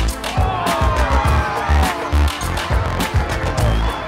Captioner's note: sound of cheering